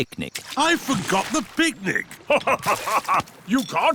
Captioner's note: laughs